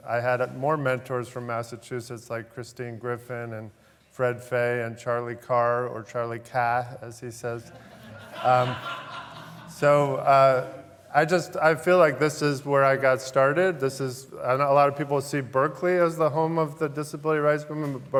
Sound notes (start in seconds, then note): 7.6 laughter